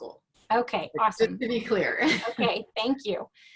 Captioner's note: laughs